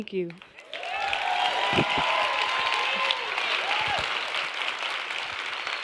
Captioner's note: cheering and applause